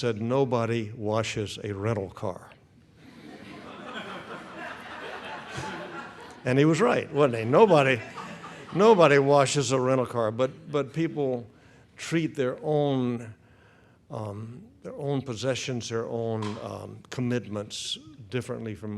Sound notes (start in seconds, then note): 3.0 audience laughs